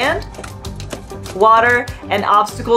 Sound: background music; flipper slapping noises on ground

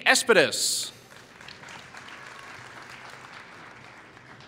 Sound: applause

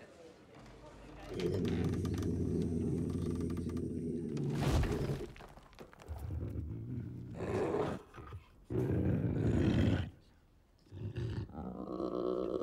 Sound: unknown alien speak

